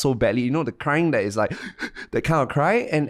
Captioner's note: mimicking sobbing